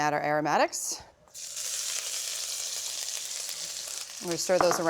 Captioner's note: sizzling